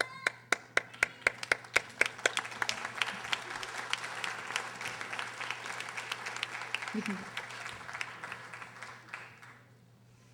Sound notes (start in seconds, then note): 1.4 audience applauding